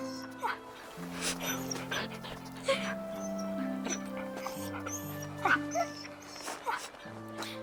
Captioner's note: Buck whimpering; Ryann crying